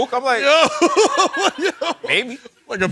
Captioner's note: laughing